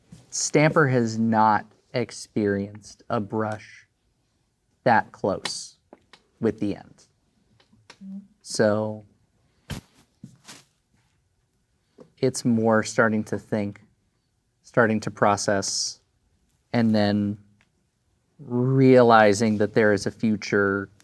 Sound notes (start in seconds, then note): none